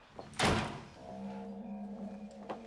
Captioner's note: door slamming